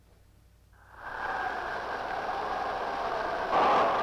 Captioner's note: wind rushing